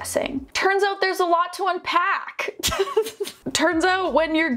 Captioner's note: laughs